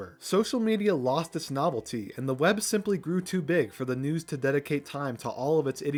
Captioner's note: none